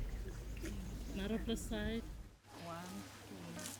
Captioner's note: Speaks in Tok Pisin